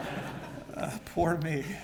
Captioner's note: laugh